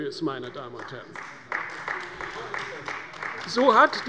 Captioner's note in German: Beifall bei der CDU